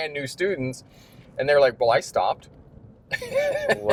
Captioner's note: laughter